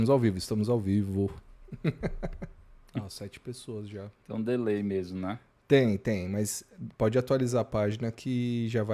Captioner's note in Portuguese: risadas